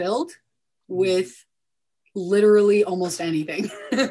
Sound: laughs

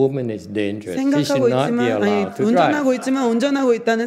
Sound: audience laughs

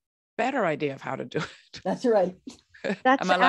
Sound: laughs

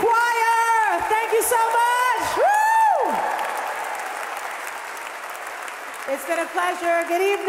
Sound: audience applauding

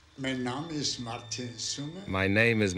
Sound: speaks foreign language

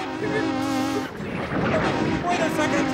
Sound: horn honking

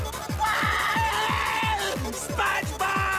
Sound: screaming

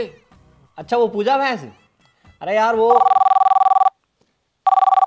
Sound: phone rings

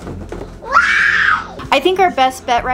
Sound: young girl screams

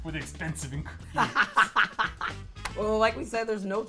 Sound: laughs

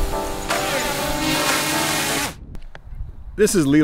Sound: drone whirring

